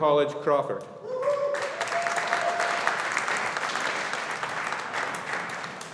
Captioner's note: audience applauding